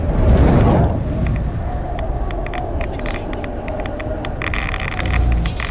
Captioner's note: wind blows furiously; geiger counter crackles